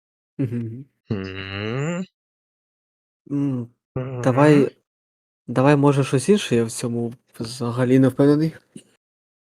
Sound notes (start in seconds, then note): 1.1 suggestive hum